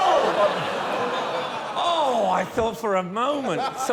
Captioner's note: laughter